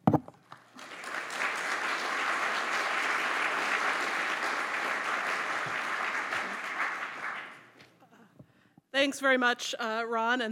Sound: applause

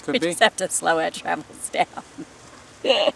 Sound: laughs

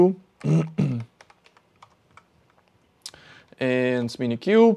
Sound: clears throat

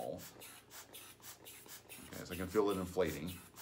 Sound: air bulb puffing

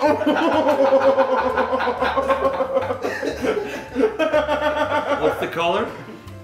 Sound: laugh

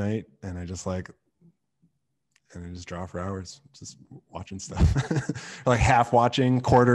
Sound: laughs

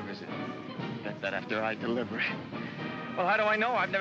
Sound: chuckles

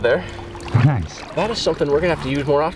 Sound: male Voice

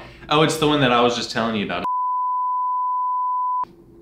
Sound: loud beep

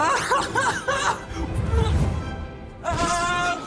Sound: laughs

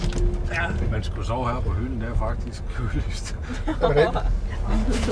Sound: all laughing

